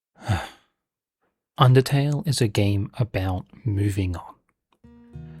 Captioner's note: exhale